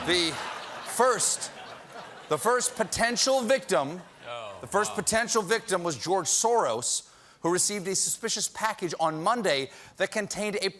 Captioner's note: laughter